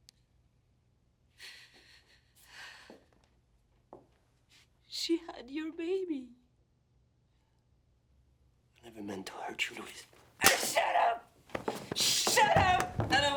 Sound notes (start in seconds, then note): 1.7 breathes shakily